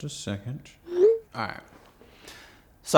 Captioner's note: phone chimes